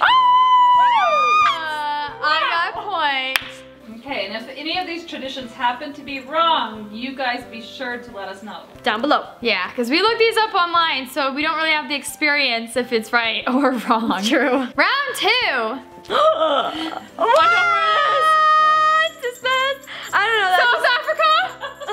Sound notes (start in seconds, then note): 0.0 celebratory scream; 16.1 gasps